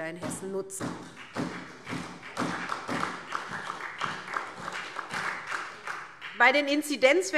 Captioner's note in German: Beifall SPD